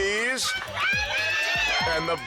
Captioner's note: crowd cheers